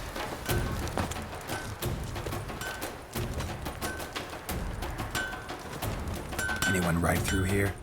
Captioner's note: clanging